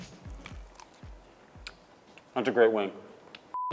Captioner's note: chicken crunches